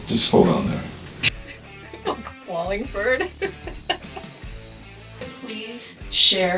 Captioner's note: laughing